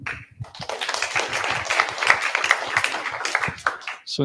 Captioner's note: applause